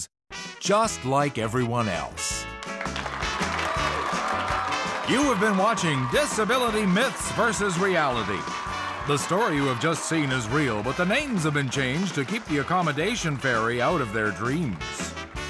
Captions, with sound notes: “Just like everyone else.” [game show music plays] [audience cheers] You have been watching Disability Myths versus Reality. The story you have just seen is real, but the names have been changed to keep the accommodation fairy out of their dreams.